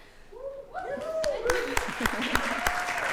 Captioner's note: applause